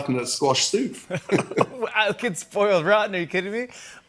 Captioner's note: both laugh